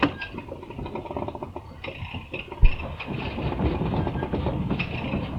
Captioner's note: winch rattling